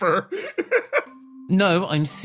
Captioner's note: laugh